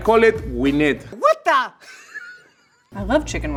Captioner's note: laughs